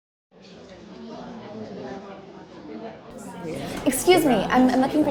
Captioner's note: people chattering